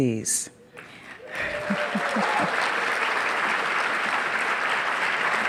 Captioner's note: audience applauding